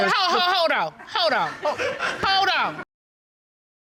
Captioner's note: audience laughs